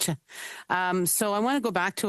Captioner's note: speaking French